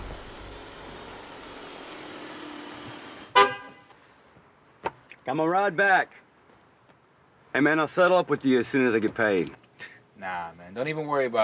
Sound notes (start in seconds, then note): 3.3 horn honking